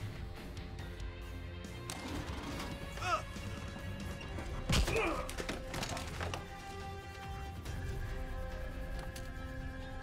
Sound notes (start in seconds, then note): 3.0 grunting